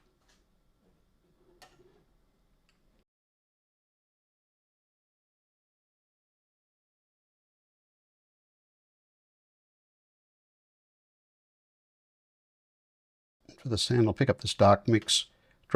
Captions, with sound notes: [silence] For the sand I'll pick up this dark mix,